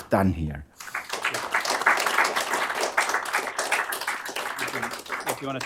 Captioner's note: applause